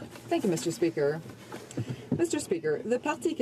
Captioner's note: speaking French